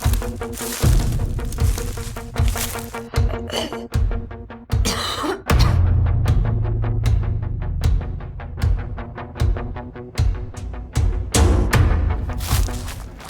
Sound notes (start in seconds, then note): 4.8 coughing